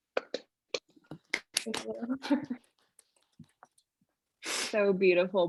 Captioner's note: audience clapping